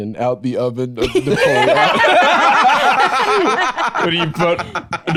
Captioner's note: all laughing